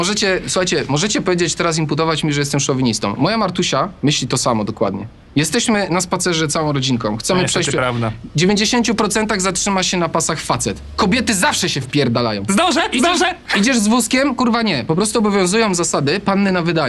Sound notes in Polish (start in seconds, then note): 12.8 śmiech